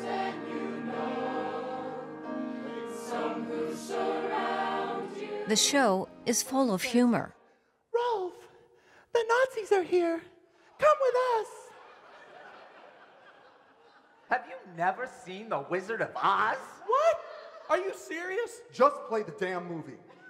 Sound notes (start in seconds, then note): 11.6 laughter; 20.0 big laughter